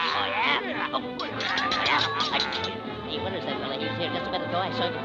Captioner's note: vizier groaning; swords clanking; Olive whimpering